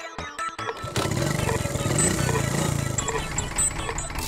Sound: machine noise

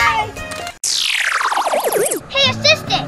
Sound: electric zapping

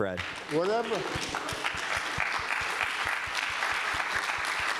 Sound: applause

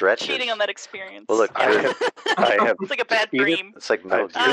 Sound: laughs

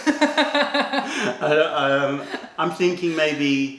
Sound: laughter

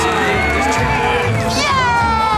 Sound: cheering

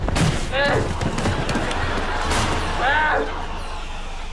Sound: moaning

